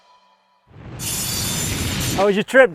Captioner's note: saw blade running